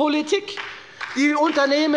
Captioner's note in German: Beifall bei der FDP und der SPD